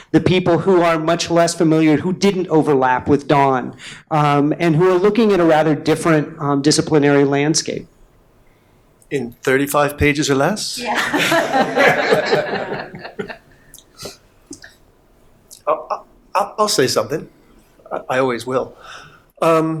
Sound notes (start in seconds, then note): 10.9 panel laughing